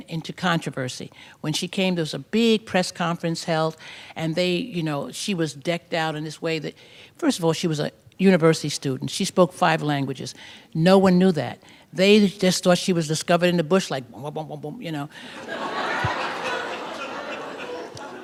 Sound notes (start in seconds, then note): 15.3 laughter